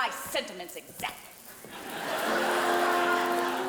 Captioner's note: audience laughing; light orchestral music